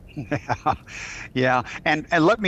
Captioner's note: laughing